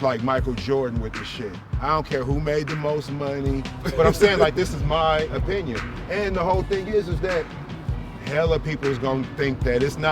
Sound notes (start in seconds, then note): 3.7 laughs